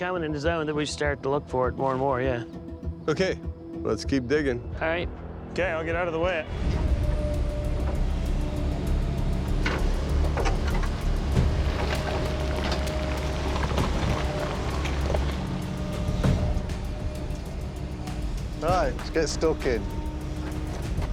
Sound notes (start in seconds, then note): 6.4 machinery whirring; 9.5 clanking